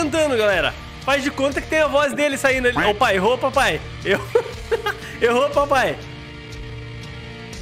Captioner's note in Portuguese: risos